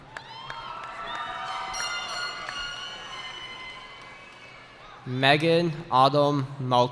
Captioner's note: cheering